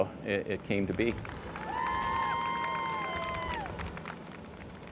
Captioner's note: applause